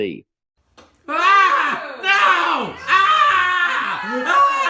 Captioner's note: yelling